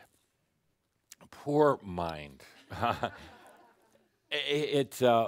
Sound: some chuckles

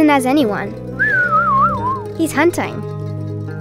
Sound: whistling

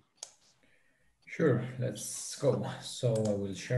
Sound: mouse clicking

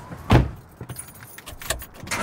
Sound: car door slams; engine starts, then stops

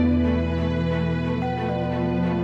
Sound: doorbell

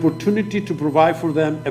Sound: speaking foreign language

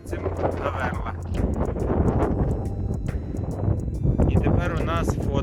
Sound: wind noise

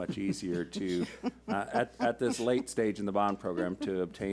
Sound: laughs

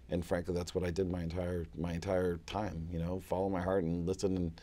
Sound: none

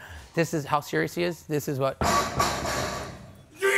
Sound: banging

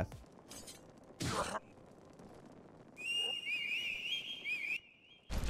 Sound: characters grunting and whistling

